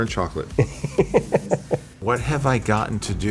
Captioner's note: laughing